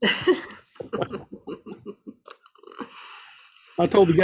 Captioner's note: laughs